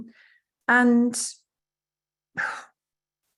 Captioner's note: sighs